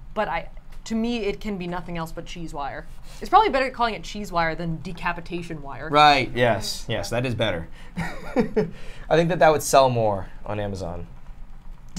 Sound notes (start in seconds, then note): 7.9 laughs